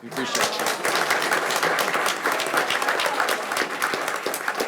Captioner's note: audience applauds